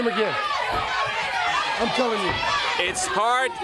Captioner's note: crowd chatter